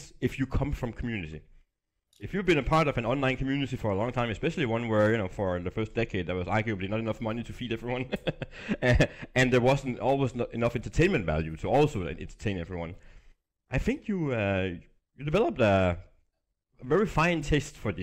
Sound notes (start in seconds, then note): 8.0 laughs